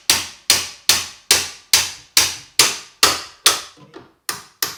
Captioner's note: hammering